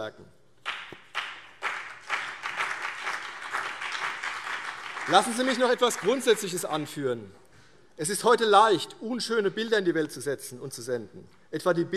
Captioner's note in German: Beifall BÜNDNIS 90/DIE GRÜNEN und CDU